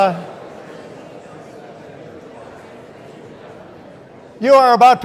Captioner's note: audience continues indistinctly chattering